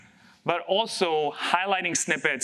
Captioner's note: none